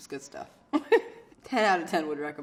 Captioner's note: laughing